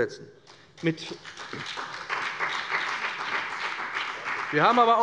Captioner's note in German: Beifall bei dem BÜNDNIS 90/DIE GRÜNEN und der CDU